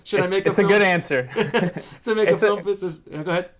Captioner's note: laughing